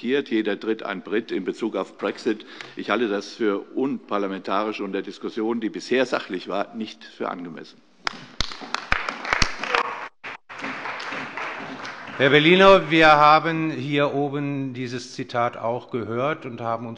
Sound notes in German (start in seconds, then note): 8.0 Beifall bei der CDU, dem BÜNDNIS 90/DIE GRÜNEN und der FDP